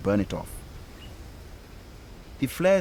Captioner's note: flames hissing